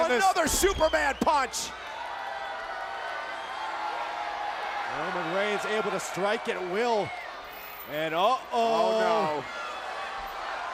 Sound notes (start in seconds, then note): 1.9 crowd cheering